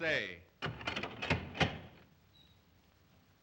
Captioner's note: lock clatters